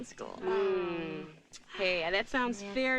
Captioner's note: sisters moaning